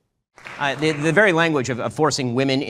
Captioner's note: audience applauding